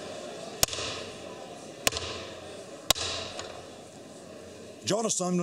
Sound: pounding of gavel

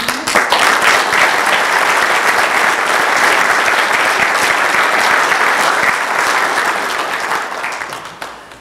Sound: applause

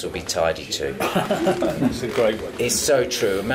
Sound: laugh

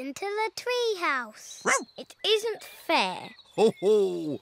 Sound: woofs; laughs

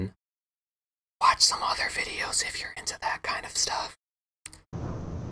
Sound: whispering

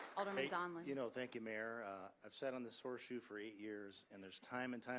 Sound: applause

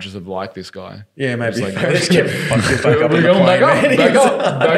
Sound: laughing

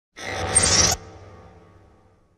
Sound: mechanical sfx

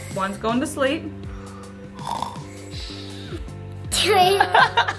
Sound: snoring

